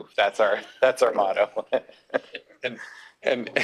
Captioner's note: laughs